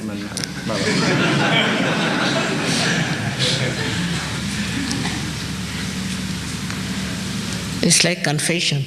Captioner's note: laughter